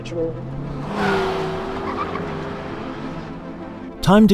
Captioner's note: engine roaring